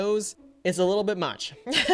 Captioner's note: laughs